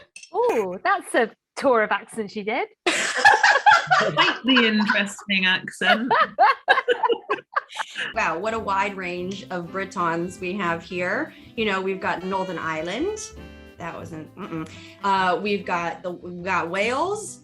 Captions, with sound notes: Oh, that's a tour of accents you did. (laughing) Quite the interesting accent. Wow. What a wide range of Britons we have here. You know, we've got Northern Ireland... that wasn't--uh-uh. We've got--we've got Wales,